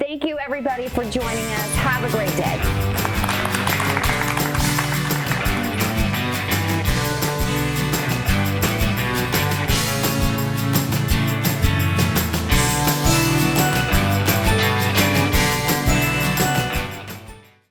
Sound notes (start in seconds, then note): 4.5 applause; 6.6 upbeat music